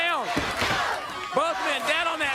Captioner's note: crowd cheering